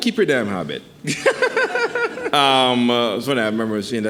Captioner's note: laughing